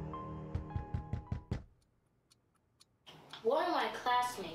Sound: cop bangs on door

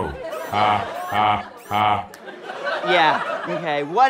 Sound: robotically

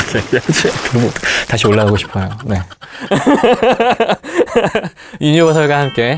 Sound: laugh

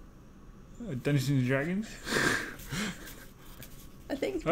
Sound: laugh

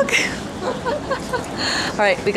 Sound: giggles

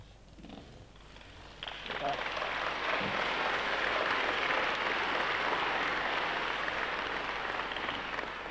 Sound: all clap

